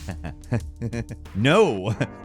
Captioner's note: chuckling